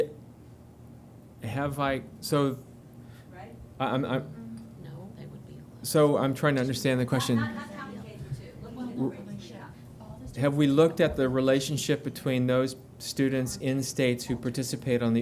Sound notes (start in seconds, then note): 4.7 speaking in whisper; 6.3 background chatter